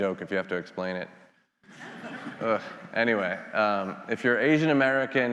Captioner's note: attendees laughing